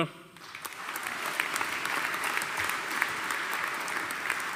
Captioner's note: audience applauding